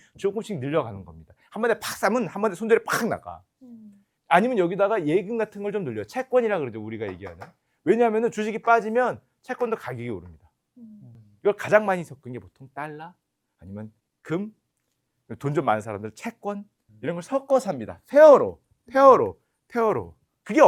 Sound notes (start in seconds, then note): none